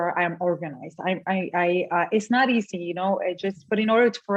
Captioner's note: stutters